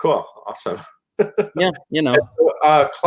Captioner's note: chuckle